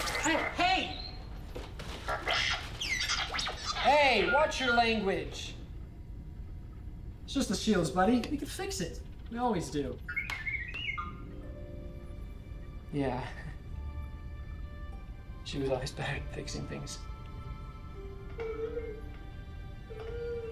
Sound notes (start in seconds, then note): 10.4 R7 beeping; 18.5 R7 sad beeping